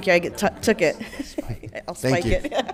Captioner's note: laughs